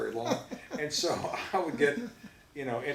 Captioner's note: both laugh